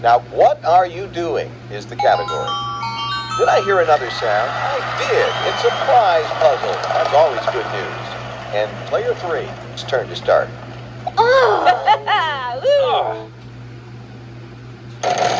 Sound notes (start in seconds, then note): 11.0 Martin and Tomoko groan; 11.1 Maria cheers